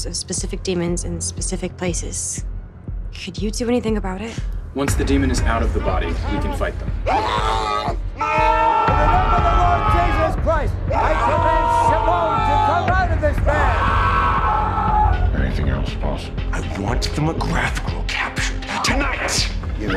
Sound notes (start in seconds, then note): 7.0 discordant voices screaming; 10.9 screaming and praying overlapping